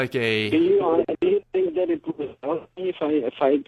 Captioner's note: voice is muffled